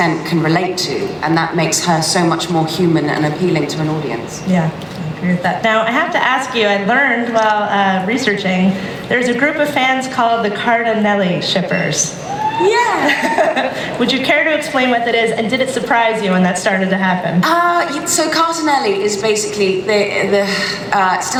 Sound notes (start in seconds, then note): 12.8 laughs